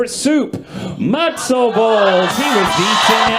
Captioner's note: audience cheers